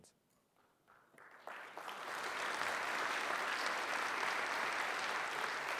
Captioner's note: audience applauding